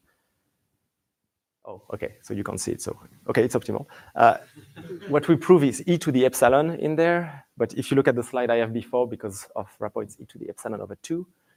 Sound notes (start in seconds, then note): 4.5 laughter